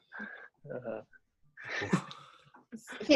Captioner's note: laughter